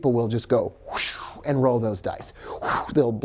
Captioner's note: whooshing sound; blows out